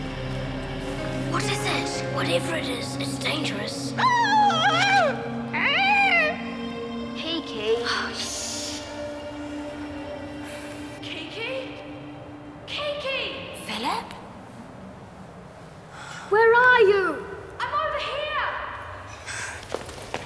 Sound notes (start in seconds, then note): 5.4 squawking; 8.6 shushes